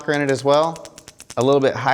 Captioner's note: knocking sound